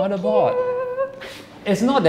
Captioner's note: happy noises